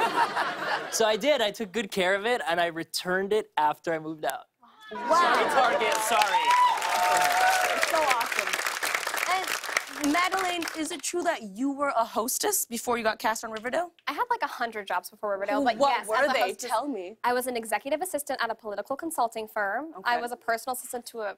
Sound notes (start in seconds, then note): 0.0 normal voice; 0.0 laughter; 4.8 cheers and applause